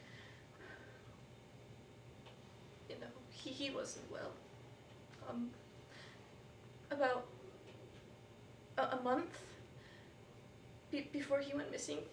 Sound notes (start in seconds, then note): none